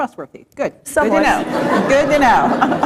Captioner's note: laughter